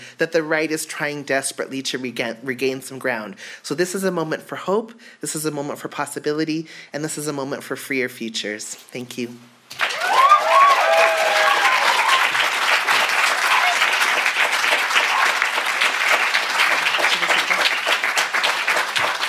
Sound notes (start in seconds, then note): 9.7 audience applauds and cheers